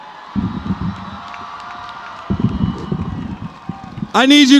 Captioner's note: applause